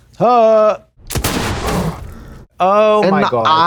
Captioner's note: gunshot blasting